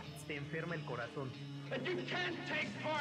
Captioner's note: foreign Language